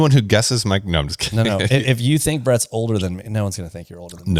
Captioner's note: laughs